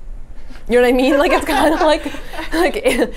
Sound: laughs

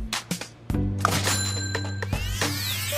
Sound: money Sound

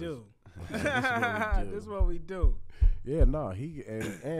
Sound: laughs

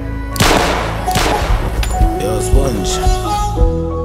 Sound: gun blasting

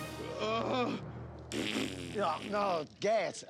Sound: mimics farting

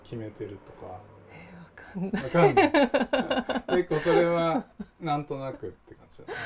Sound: laugh

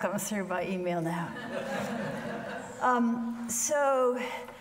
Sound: audience laughing

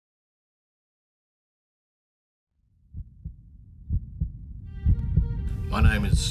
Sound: beating heart sound features with some subtitles

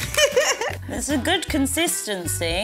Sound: laughs

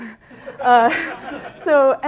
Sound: laughter

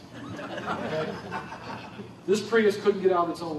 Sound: laughter

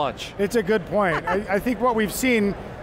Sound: laughter

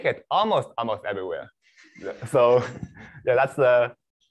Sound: laughter

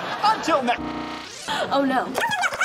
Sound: gasp; squeaky and high speed

